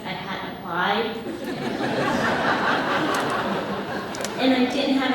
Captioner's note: audience laughs